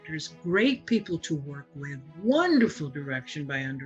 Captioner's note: none